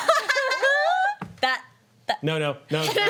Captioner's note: laughing